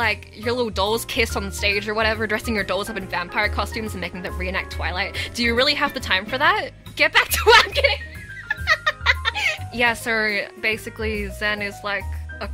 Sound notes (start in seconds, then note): 8.4 laughing